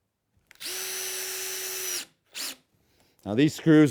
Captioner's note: screw gun